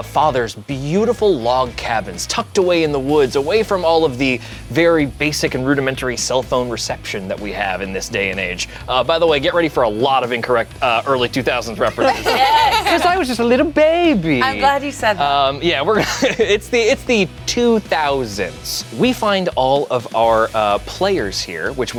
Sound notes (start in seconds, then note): 11.9 group laughs